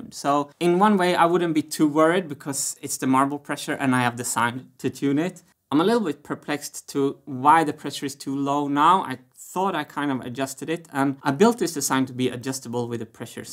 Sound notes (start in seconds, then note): none